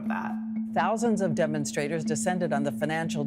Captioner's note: soundbite of archived recording